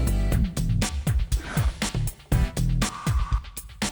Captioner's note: none